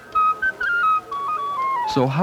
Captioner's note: indiscriminate chatter